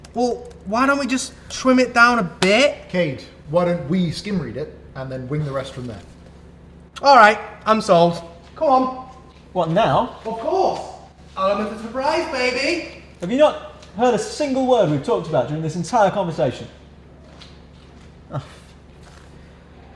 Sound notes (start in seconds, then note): 17.8 sticky footsteps; 18.3 exasperated sigh